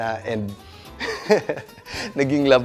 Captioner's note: laughs